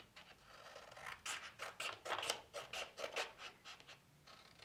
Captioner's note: scissors snipping